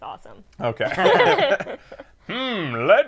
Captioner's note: laughs